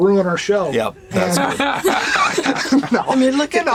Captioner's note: laughter